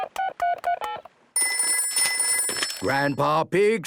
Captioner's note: dial tones beeping; ringing